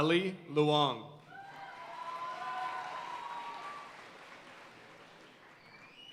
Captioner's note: audience cheering and applauding